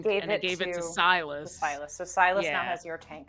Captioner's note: none